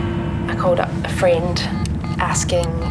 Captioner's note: phone dialling